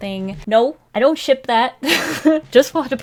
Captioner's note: laughs